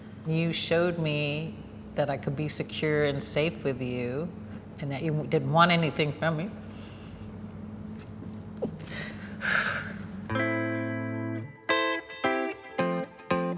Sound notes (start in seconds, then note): 8.8 exhales deeply; 10.3 bright gentle music